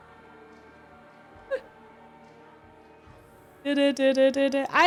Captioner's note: cough